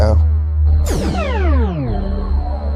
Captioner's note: teleportation sound